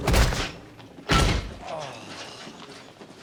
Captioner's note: groaning softly